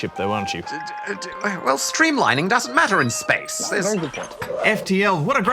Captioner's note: stammers